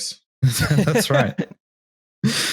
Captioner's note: laughs